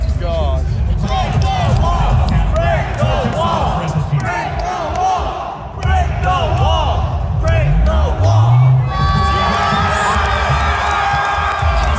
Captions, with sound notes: - [Crowd] Break the wall! Break the wall! Break the wall! (people clamoring)